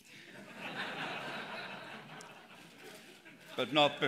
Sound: laughter

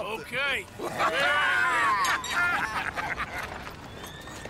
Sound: they laugh and toast

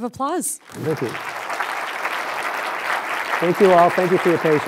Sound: applause

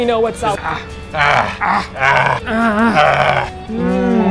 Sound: grunting

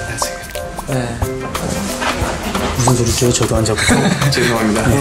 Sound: rustling; rustling

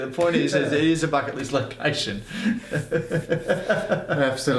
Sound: laughs

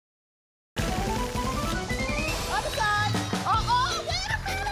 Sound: applause and cheering cont

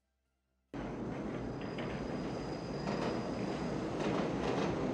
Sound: railway carriage sounds

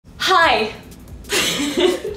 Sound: laughs

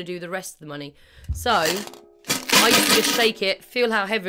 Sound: tin container shaking

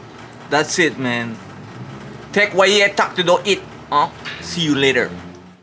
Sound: speaking Mayan

